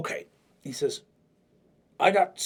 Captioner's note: normal voice